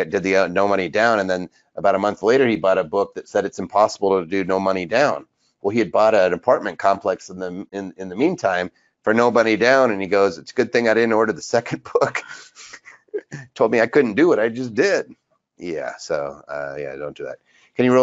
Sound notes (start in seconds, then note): 11.5 laughs